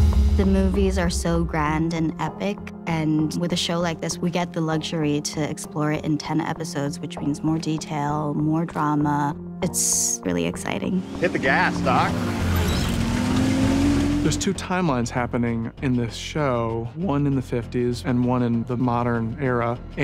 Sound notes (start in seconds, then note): 10.8 engine Revving